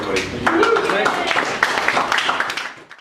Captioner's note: applause